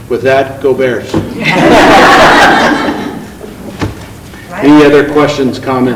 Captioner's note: group laughing